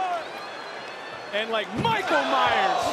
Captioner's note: crowd cheers